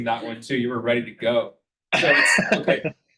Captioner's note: chucking